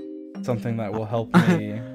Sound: chuckles

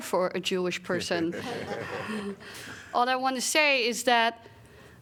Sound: laughter

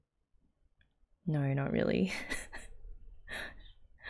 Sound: laughs

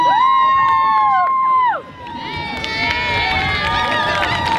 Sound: audience cheers

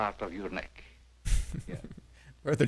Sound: chuckling

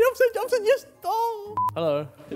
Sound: beep

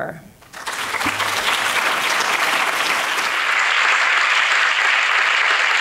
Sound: audience clapping

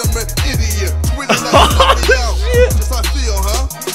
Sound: giggles

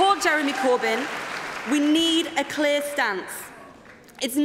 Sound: cheering & Applause

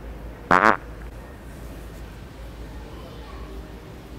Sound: farting

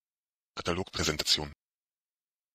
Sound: fast Pronunciation

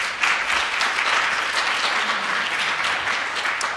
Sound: applause

